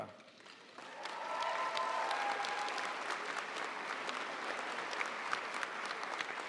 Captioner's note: audience cheering and applauding